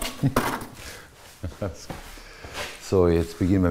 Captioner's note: laughter